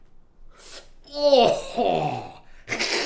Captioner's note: gagging